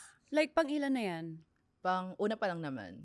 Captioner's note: gasps